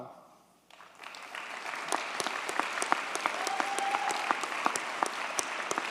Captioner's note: audience cheers and applauds